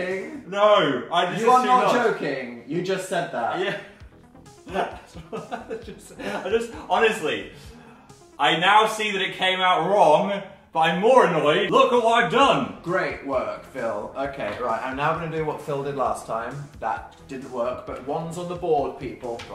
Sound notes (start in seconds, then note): 4.6 laughs